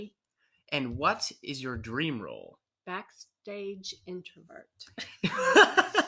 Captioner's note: both laugh